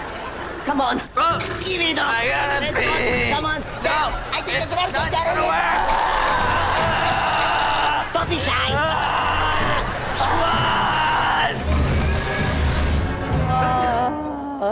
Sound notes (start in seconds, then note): 5.3 screaming; 12.9 groaning